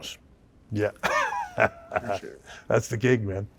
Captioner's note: laughs